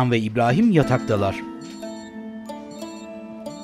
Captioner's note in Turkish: Telefon zili sesi